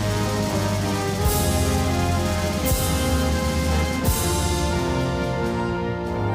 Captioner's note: none